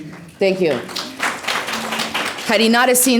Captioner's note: applause